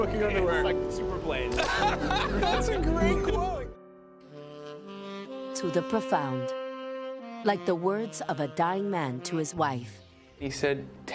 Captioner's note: laughter